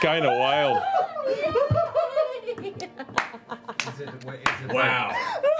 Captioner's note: laughter